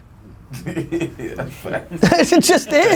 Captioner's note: laughs